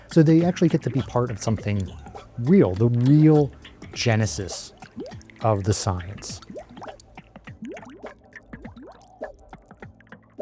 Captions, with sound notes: so they actually get to be part of something real, the real genesis of the science. (water bubbling)